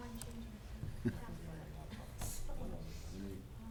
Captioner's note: laughing